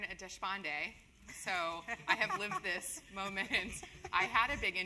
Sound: laugh

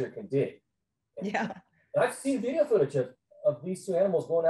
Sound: chuckles

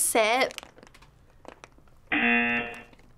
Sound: buzzer

